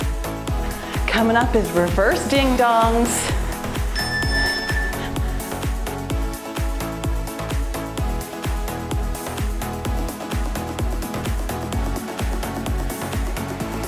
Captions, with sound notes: Coming up is reverse ding-dongs. (timer beeps) (cheerful music)